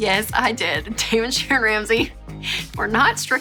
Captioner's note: laughing